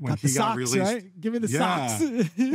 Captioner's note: laughs